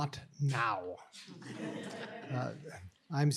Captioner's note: chuckling